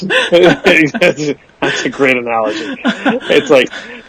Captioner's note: laughs